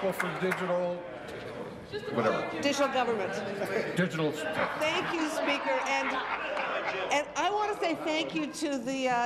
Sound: applause

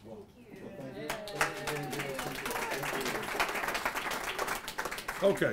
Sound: applause

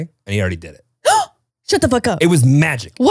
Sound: gasps

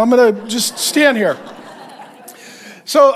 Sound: congregation laughing

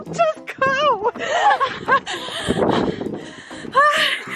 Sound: laughing

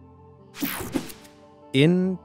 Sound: image whooshing

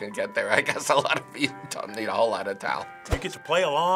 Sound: laughing

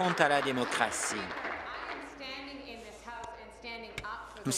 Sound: applause

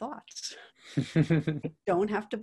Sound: chuckles

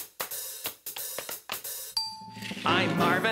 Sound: hooves clicking

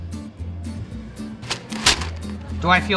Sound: paper rustling

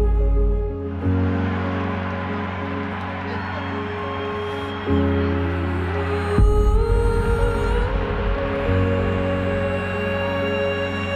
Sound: applause

